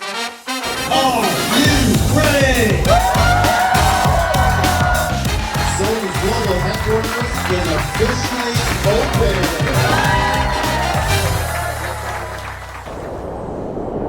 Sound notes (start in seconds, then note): 3.1 crowd cheering